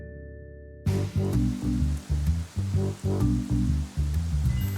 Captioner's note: rain drumming